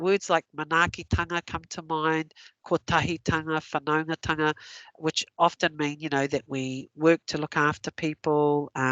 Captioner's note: non-english speech